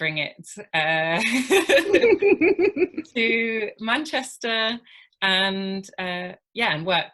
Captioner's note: laughter